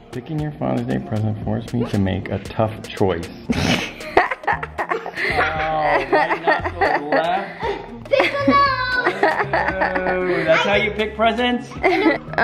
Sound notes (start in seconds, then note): 3.5 laughs; 9.0 laughs